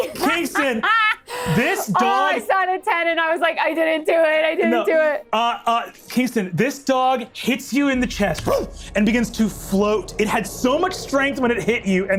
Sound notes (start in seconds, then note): 8.4 barks